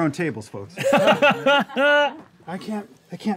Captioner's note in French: rires